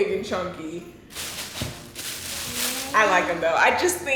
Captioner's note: paper rustling